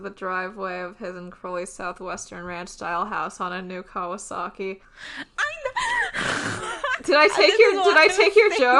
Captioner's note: exclaims